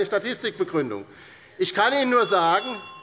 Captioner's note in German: Unruhe - Glockenzeichen des Präsidenten